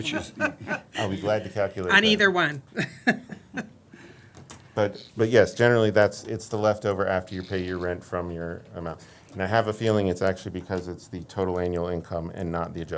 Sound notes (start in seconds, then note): 2.7 laughter